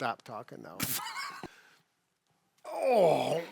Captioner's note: laughs